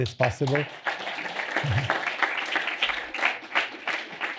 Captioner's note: applause